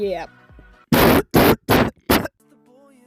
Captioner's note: loud caughing